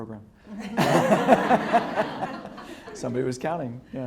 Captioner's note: students laugh